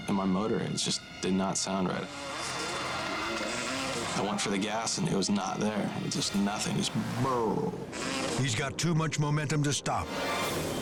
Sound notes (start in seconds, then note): 1.6 engine roaring; 6.4 imitates sound of motor failing